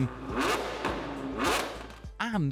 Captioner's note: car revs